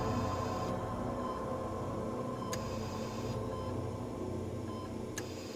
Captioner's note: machines beeping